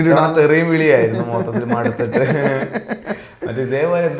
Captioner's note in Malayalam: പൊട്ടിച്ചിരി